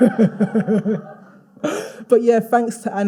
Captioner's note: all laughing